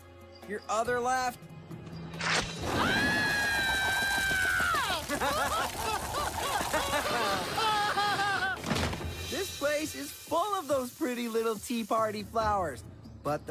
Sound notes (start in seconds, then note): 2.6 screams; 4.8 evil laughter